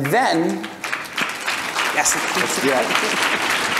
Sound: audience applause

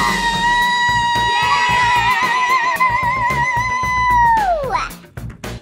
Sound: children cheering

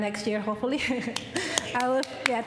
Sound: applause

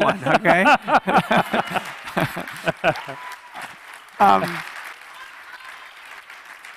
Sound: laughing; audience cheering

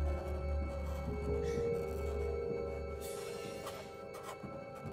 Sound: crying quietly

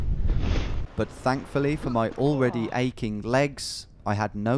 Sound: voiceover

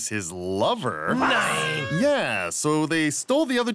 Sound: all reactions of disbelief

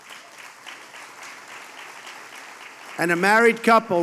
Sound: applause

